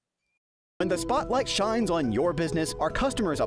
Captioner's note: voice-over